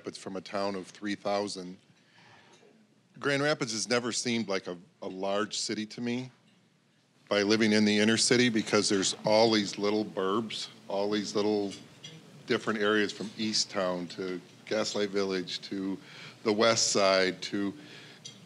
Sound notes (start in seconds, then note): none